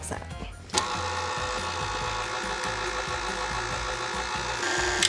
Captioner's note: mixer slowly whirring